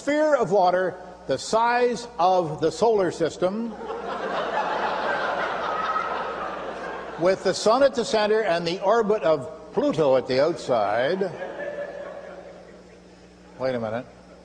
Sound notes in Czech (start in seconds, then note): 3.7 smích